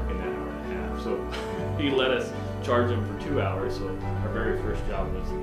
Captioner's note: laughs